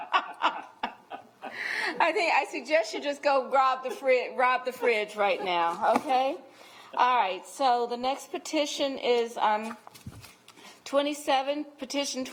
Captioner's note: laughter